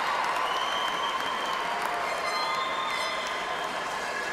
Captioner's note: cheers and applause